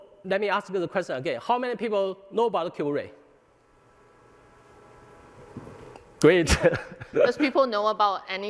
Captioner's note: laughter